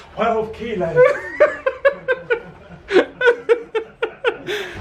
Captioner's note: laughing